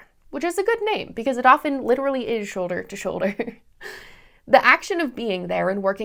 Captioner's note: laughter